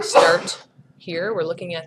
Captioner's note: sneeze